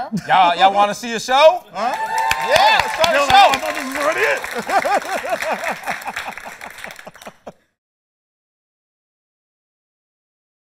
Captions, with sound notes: Y'all want to see a show? [APPLAUSE] Yeah, let's start the show. Yo, I thought this was already it. [LAUGHS]